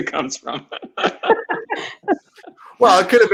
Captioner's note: laughing